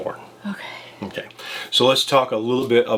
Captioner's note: sighs